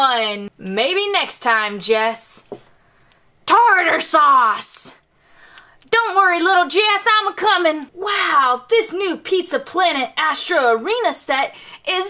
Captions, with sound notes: maybe next time, Jess. (imitates Jessie's voice) Tartar sauce, don't worry little Jess, I'ma coming. Wow, this new Pizza Planet Astro Arena set is so cool,